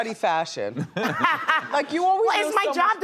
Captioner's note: all laugh